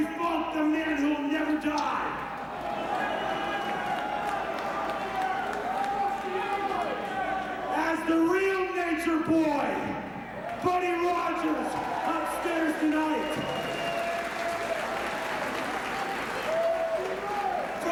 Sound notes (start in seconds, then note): 10.2 crowd cheering